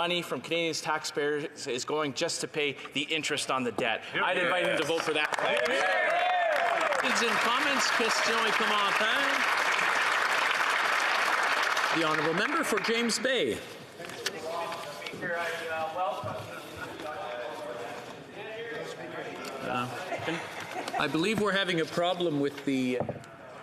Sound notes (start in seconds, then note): 10.9 some Applause; 13.1 speaking French